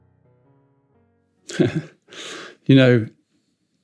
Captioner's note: chuckles